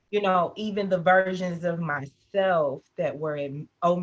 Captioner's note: none